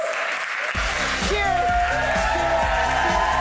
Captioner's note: audience applauding; upbeat music